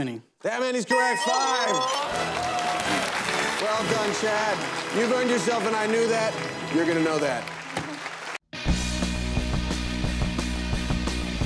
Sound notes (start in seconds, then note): 8.2 cheers and applause